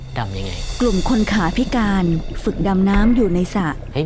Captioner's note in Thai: เสียงน้ำ